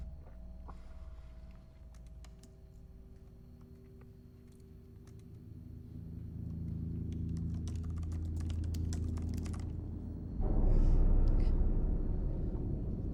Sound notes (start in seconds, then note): 7.1 keyboard typing; 10.6 eerie music